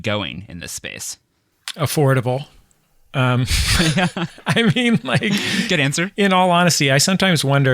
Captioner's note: laughter